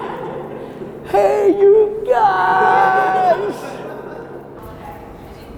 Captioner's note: group laughter